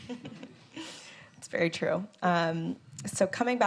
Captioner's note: moderators laughing